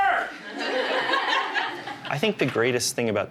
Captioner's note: class laughs